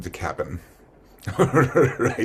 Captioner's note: laughs